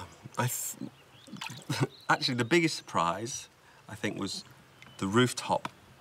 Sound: sighing

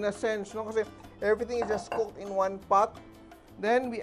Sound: clang

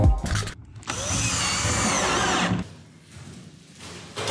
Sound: upbeat music; drill whirs

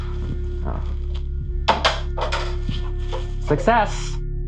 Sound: clattering

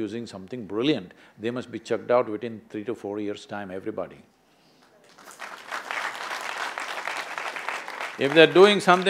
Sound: applause

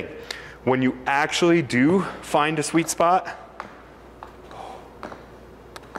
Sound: lip smacks

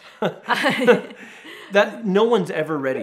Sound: laughing

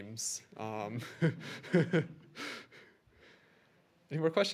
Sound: laughter

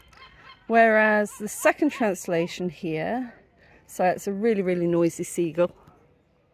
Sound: seagull

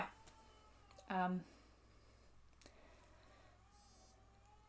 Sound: baby cries

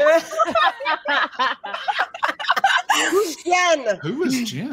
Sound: group laughing

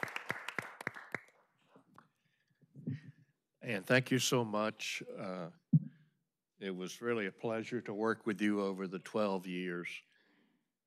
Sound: applause

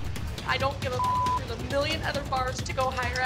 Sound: beep

